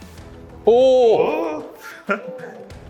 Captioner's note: surprised